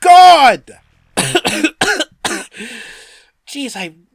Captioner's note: coughing